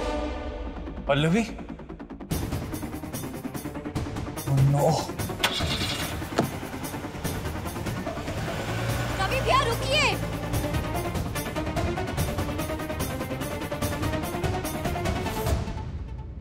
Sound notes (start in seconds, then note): 6.2 shifts gear; 10.4 pensive music playing